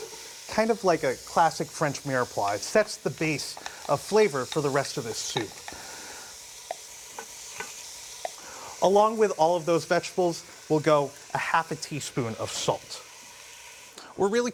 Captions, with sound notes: And this is kind of like a classic French mirepoix. It sets the base of flavor for the rest of this soup. (sizzling) Along with all of those vegetables, we'll go a half a teaspoon of salt.